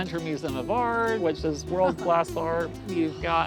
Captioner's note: laughs